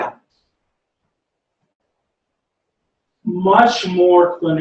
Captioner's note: pause